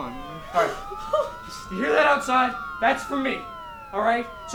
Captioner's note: yelling